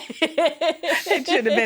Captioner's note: both laughing